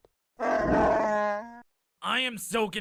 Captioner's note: chewbacca sfx